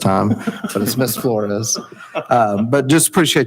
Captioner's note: chuckling